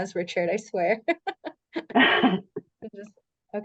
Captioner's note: laughs